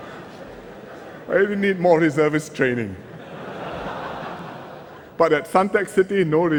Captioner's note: laughter; laughter